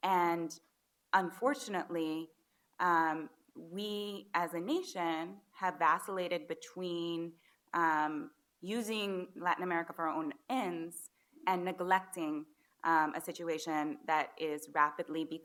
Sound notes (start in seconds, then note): none